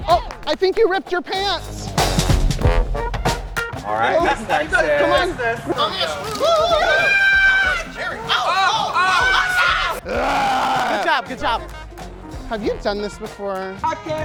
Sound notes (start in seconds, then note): 1.8 band music continues; 6.1 Miss Texas screaming; 8.5 campers exclaiming; 10.0 Miss Texas growling